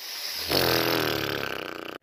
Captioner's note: sad whoopie cushion